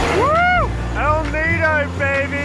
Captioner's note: plane engines